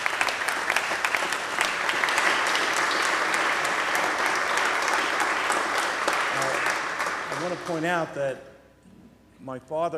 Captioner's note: applause